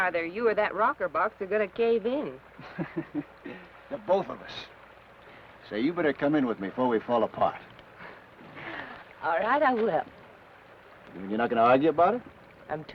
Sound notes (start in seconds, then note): 2.6 Ben chuckles; 8.6 Laura chuckles